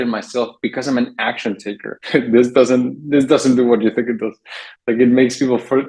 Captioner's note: chuckles